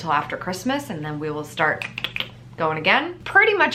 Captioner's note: snaps